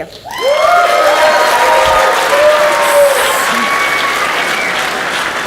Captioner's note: audience cheers and applauds